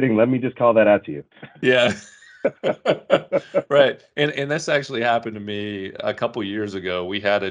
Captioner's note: laughing